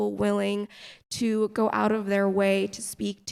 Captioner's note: none